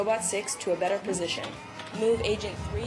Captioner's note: alarm sounding